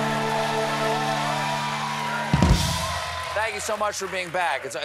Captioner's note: cheers and applause